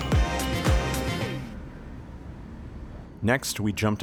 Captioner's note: ambient train station sounds; voiceover